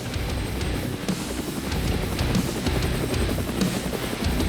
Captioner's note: upbeat music; helicopter blades whirring; upbeat music